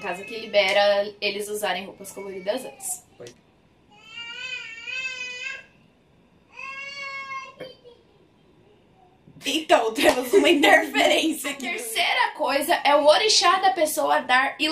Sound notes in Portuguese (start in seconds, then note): 3.4 Som de bebê gritando; 10.0 risos